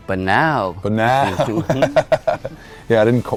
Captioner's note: laughs